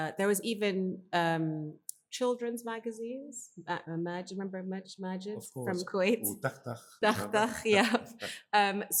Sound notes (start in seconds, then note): 3.5 speaks in foreign language; 6.1 speak in foreign language